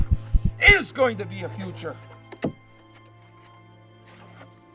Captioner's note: heart beats stop